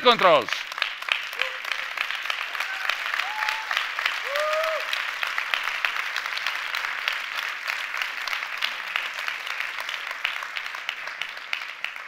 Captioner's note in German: Applaus